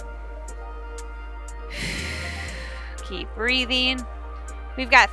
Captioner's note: exhales